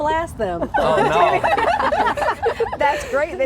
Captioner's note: laughing